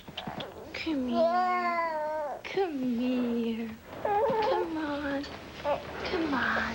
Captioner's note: river cries